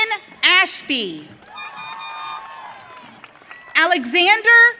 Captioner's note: audience cheering